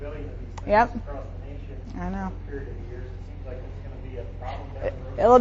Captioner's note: faintly speaking